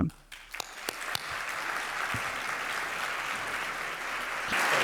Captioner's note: audience applauds